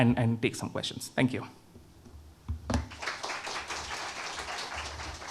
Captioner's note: audience applauding